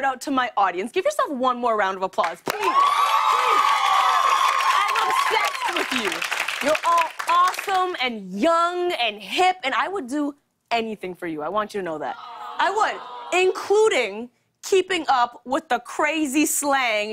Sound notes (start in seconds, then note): 2.5 cheers and applause; 12.1 audience awws